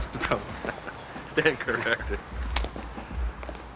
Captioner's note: chuckling